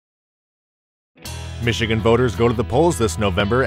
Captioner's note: voiceover